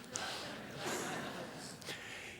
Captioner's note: laughter